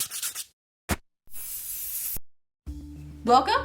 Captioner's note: intro sound effects